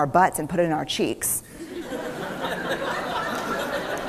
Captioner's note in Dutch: Gelach